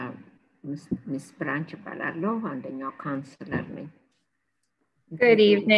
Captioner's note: speaking in foreign language